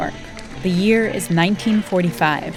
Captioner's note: chanting